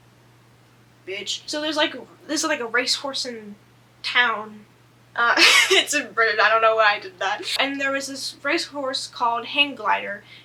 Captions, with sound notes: Bitch. So there's like- this is like a racehorse-ing town. (laughs) It’s in Britain I don't know why I did that. And there was this race horse called Hang Glider